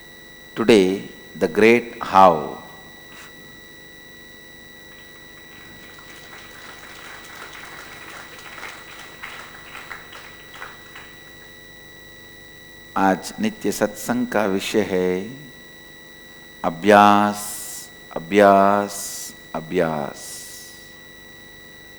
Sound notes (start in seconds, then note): 8.4 hindi